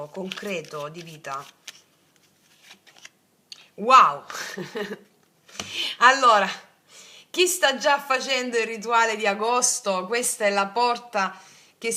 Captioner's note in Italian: risate